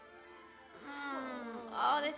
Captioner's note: groaning